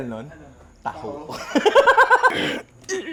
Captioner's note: laughs